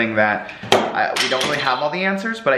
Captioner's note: crashes